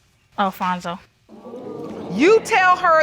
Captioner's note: audience murmuring